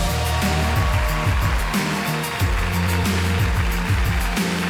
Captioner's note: audience applauding and cheering; upbeat music